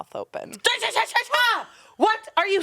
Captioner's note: yells